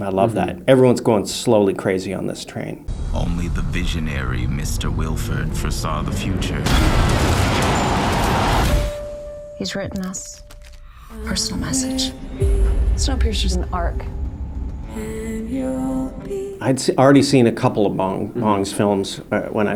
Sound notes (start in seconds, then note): 6.7 train speeding; 7.8 blizzard howling; 8.9 chime